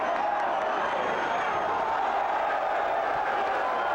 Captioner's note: crowd cheers